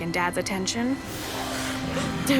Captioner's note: raspy breathing